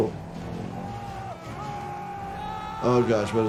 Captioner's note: passenger screaming